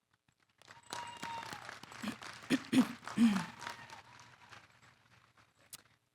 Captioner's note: applause